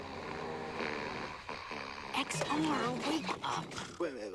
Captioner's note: snoring